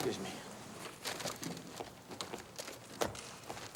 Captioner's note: footstep